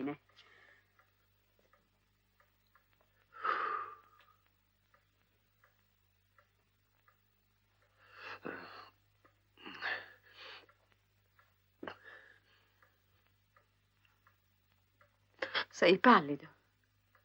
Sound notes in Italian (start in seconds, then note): 0.2 sospiri; 7.5 sbuffare